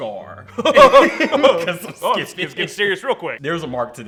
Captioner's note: laughs